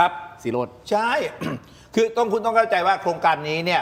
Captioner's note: clears throat